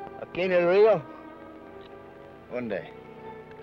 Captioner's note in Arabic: بن يتحدث لغة أجنبية; الأمريكي الأصلي يتحدث لغة أجنبية; بن يتحدث لغة أجنبية